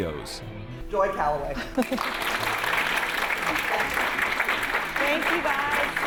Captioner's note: audience applauding